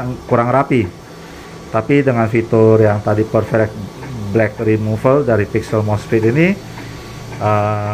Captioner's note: printer machine noise